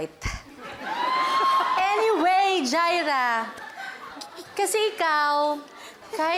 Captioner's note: laughter